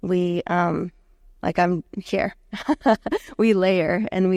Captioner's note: chuckling